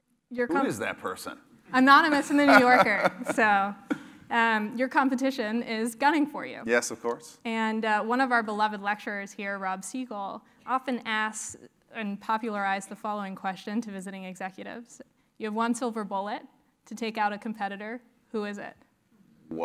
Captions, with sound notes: Your comm- >> Who is that person? >> Anonymous New Yorker. >> [LAUGH] >> So your competition is gunning for you. >> Yes, or course. >> And one of our beloved lecturers here, Rob Seigal, often asks and popularized the following question to visiting executives. You have one silver bullet to take out a competitor, who is it?